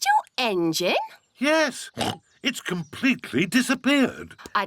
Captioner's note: oinks